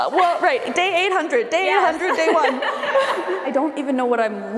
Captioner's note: laughing